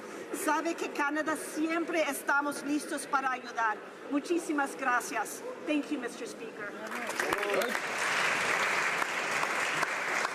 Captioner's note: speaking spanish